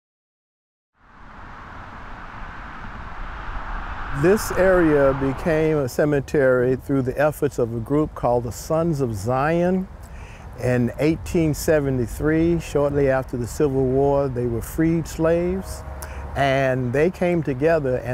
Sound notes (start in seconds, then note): 1.0 traffic rumbles